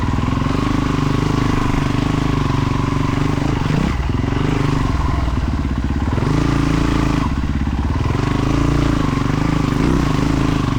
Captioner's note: engine revving